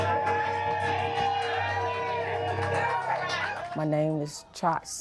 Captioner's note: audience cheering